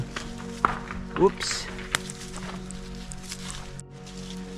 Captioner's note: rocks falling